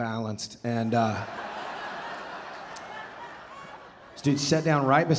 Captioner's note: audience laughing